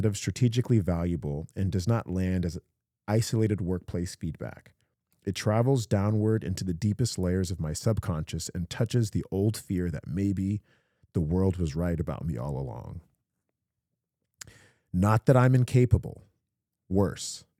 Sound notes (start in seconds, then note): none